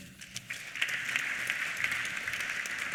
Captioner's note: applause